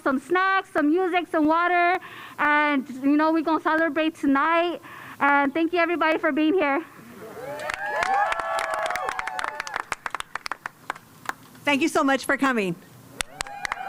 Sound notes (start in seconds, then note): 9.9 cheers and applause